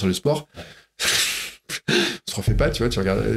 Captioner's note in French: Rire